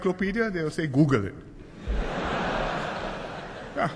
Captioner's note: laughter